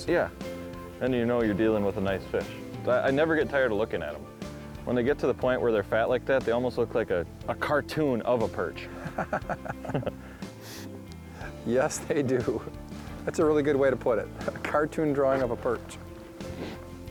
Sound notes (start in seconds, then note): 8.9 laughs; 16.8 slow rock